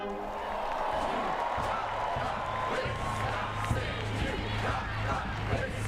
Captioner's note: cheering